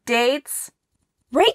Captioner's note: silence